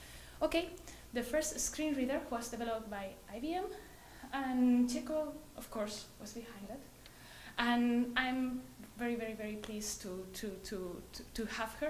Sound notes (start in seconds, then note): none